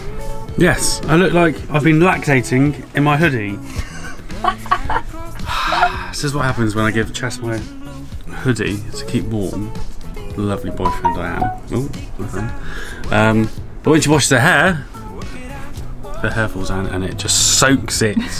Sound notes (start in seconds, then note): 4.3 laughs